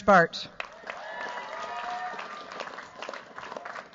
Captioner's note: cheers, applause